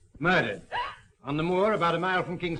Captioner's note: gasping